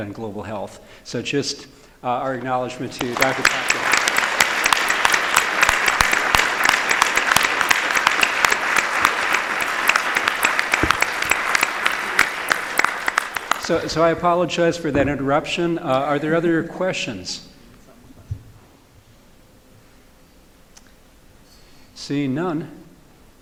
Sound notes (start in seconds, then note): 8.4 applause